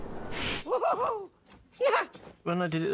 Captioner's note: whooping